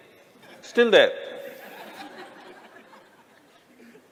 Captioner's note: laughter